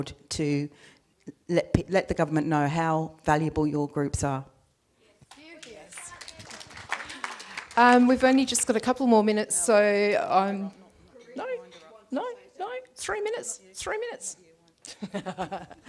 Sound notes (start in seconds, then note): 7.5 audience applauds; 14.8 laughs